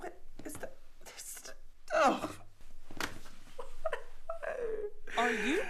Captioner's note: crying